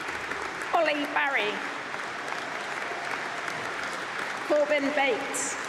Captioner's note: applause; applause